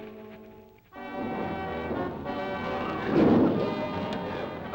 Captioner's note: dramatic music; lizard bellowing